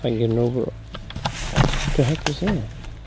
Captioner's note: leaves whooshing